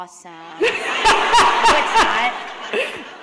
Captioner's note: laughter